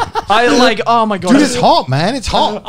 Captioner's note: murmurs